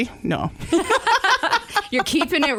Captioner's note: laughter